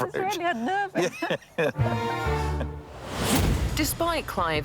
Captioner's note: laughs